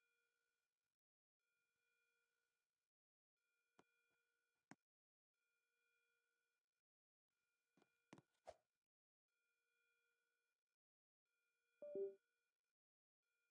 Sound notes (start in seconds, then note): none